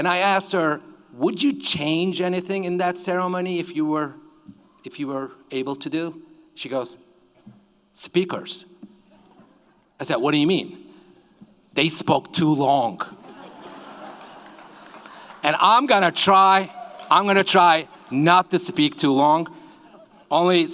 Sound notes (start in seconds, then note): 13.1 audience laughs